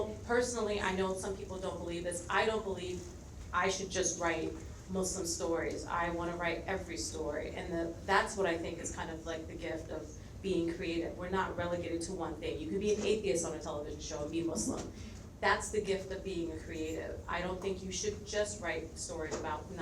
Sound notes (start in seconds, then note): none